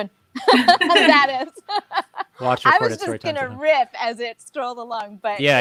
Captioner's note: both laughs; laughs